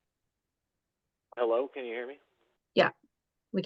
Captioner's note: by phone